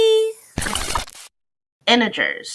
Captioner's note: video reel spinning